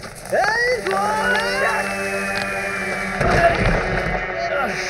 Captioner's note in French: Boum!